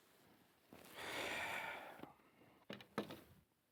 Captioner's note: sighs